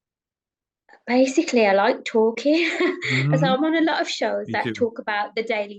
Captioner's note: chuckles